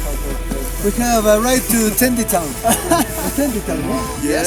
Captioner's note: laughs